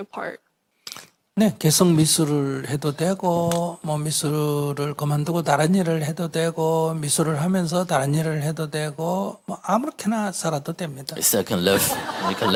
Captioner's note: audience Laughter